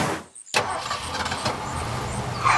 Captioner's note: engine starting